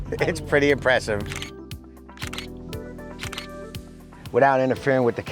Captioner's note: camera shutter clicking